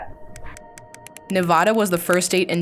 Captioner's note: numbers click